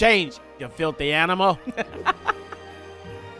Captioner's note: laughs